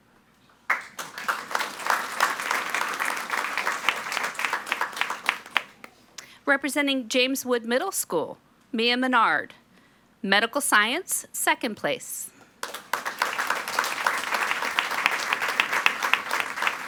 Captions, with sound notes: (all applauding) Representing James Wood Middle School, Mia Menard, Medical Science, second place. (all applauding)